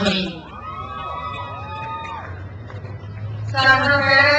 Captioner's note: crowd cheers